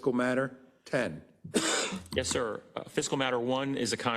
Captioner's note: cough